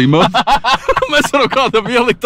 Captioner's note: laughs